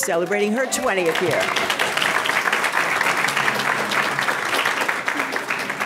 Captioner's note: audience clapping